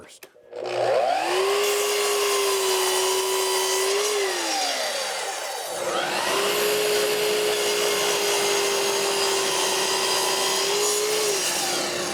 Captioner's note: saw roaring